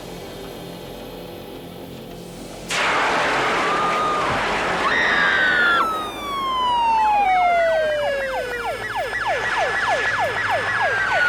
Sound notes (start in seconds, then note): 2.2 fire extinguisher hissing; 4.9 student screaming; 6.3 sirens blaring